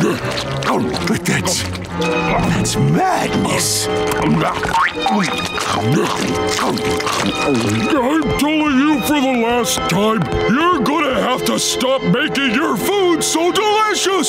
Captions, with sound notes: But that's... that's madness. [scarfing] I'm telling you for the last time, you're gonna have to stop making your food so delicious!